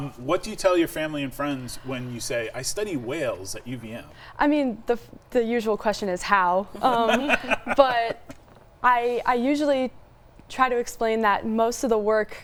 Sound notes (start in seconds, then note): 6.7 chuckling